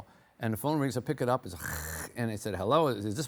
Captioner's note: imitates static